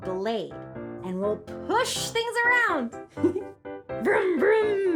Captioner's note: giggles